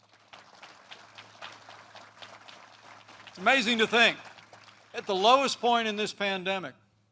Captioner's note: applause